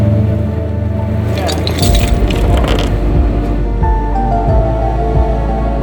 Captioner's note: tow truck winch whirring; chains clanging; upbeat instrumental music continues